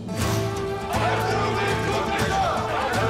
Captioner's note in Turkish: Hep bir ağızdan